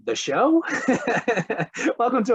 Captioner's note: laughs